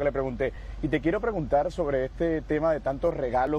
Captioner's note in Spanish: HABLA EN INGLéS